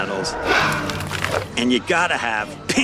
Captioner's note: growling